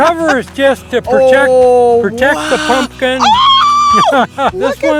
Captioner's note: screams